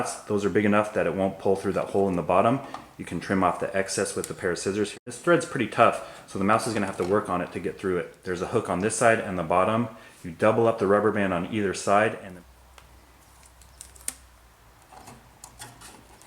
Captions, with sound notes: Those are big enough that it won't pull through that hole in the bottom. You can trim off the excess with a pair of scissors. This threads pretty tough so the mouse is gonna have to work on it to get through it. There's a hook on this side on the bottom. You double up the rubber band on either side. *Crinkle*